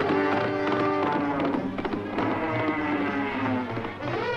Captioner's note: suspenseful orchestral music; bull roaring